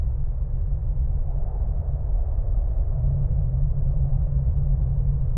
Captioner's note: wind howling continues